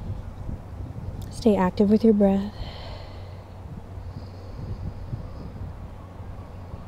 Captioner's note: blows out breath